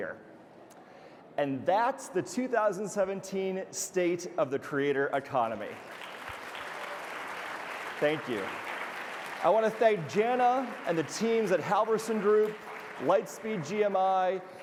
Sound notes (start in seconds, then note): 6.0 audience applauding